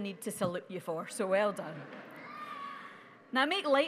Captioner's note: audience laughing